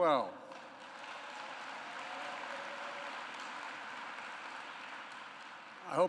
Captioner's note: applause